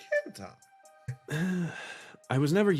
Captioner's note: sigh